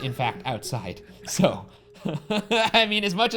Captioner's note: laughs